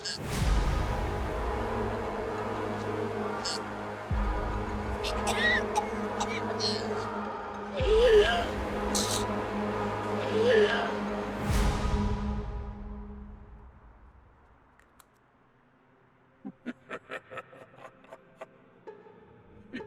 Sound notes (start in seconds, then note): 0.2 Mischa gagging; 0.2 dramatic music; 5.0 Misha coughing; 16.4 leprechaun laughing